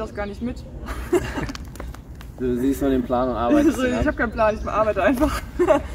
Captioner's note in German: lachen